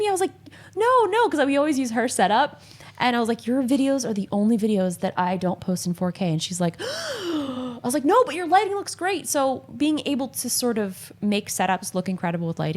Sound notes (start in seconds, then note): 7.4 exclaims